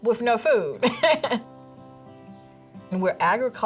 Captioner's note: laughs